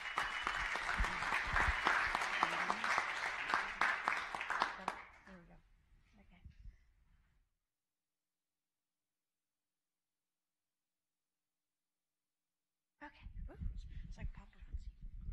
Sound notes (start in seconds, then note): 3.9 applause